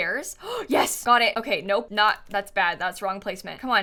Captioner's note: gasps